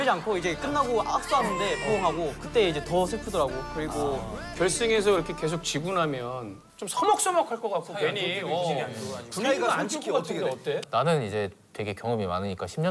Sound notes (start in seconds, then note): 1.2 burst crying